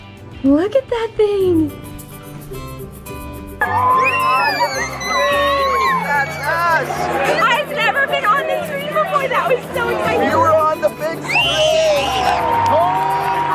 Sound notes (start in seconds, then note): 3.6 cheering; 11.5 yelling